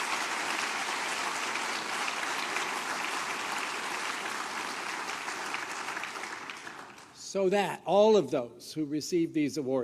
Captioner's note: applause